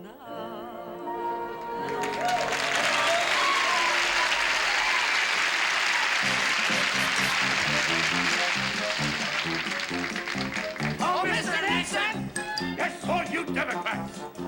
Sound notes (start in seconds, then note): 2.6 applause; 6.3 upbeat music